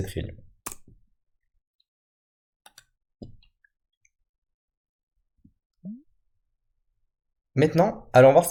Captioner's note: Clic